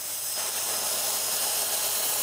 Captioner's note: quiet whirring